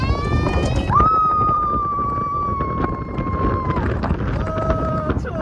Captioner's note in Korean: 소리 지르다